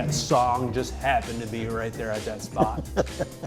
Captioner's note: laughs